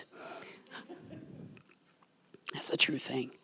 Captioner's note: audience members laughing